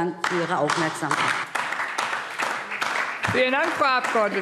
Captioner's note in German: Beifall DIE LINKE